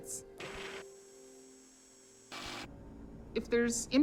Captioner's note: static crackles